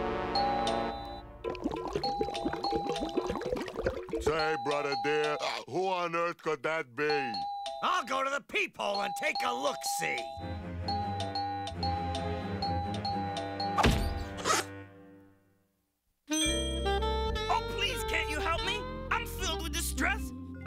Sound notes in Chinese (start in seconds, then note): 0.4 叮咚!; 1.8 叮咚! 叮咚!; 10.6 叮咚!叮咚!叮咚!叮咚!叮咚!